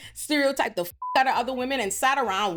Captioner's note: beep